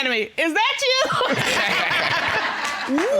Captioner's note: all laugh